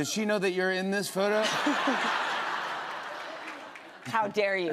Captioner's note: laughter